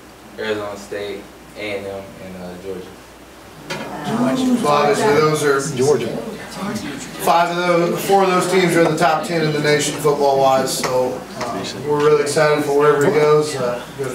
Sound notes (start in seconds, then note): 5.9 overlapping chattering